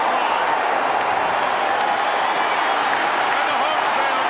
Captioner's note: audience cheering